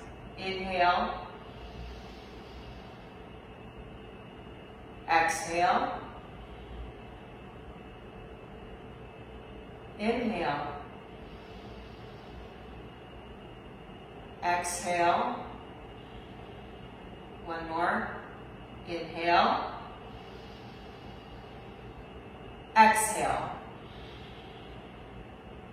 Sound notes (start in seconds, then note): 1.3 inhales; 6.0 exhales; 11.0 inhales; 14.8 exhales; 19.8 inhales; 24.0 exhales